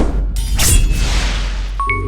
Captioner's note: sword Slash Sound; intro Jingle